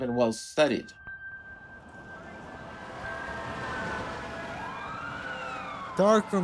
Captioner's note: sirens blaring, traffic moving